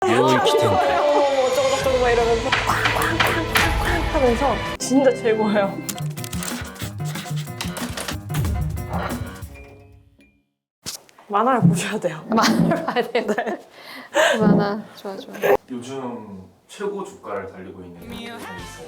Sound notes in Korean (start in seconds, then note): 12.3 웃음